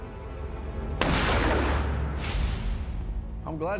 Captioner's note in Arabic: طلق ناري